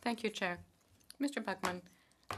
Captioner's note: speaking French